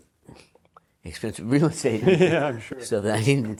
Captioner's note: big laugh